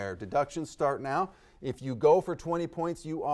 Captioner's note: none